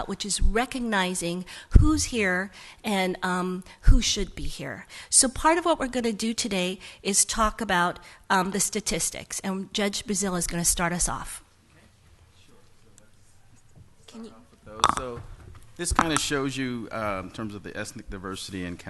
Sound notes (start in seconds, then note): 12.9 quiet speaking